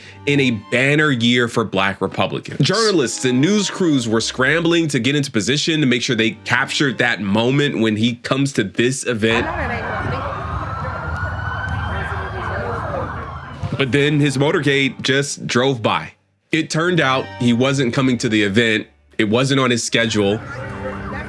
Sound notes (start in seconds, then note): 9.2 bystanders speaking; 13.8 sirens wailing